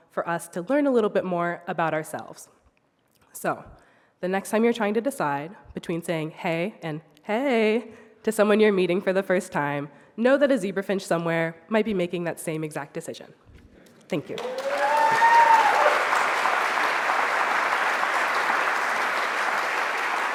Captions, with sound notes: for us to learn a little bit more about ourselves. So the next time you're trying to decide between saying, "Hey" and "Hey" to someone you're meeting for the first time, know that a zebra finch somewhere might be making that same exact decision. Thank you. (audience applauding and cheering)